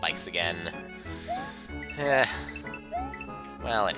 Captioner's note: breathing